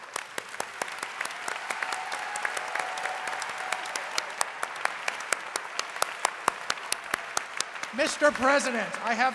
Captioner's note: applause